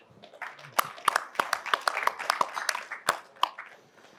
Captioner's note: audience claps